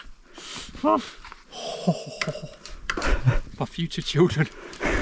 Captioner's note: continues groaning